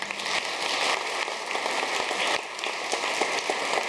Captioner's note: audience clapping